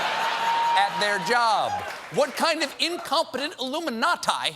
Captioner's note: laughter